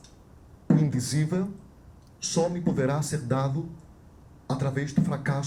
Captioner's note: speaks Portuguese